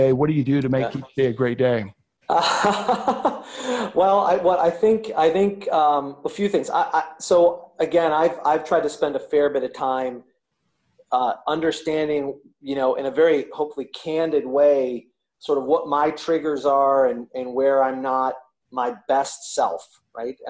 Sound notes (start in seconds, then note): 2.3 laughing